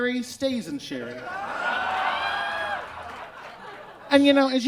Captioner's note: audience exclaims